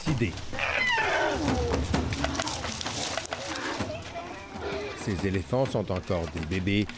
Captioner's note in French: barrissements